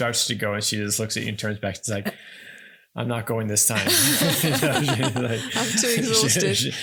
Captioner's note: laughing